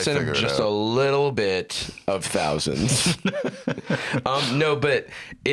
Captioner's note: laughs